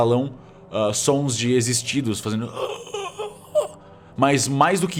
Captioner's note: groaaan